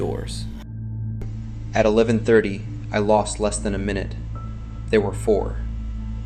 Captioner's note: breathing unsteadily